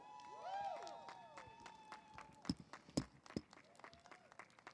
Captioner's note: audience applauds